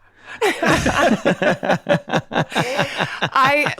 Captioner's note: all laughing